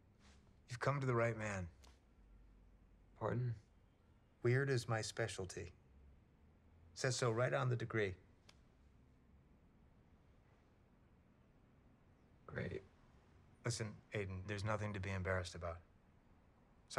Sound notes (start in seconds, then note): none